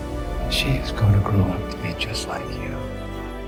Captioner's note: voiceover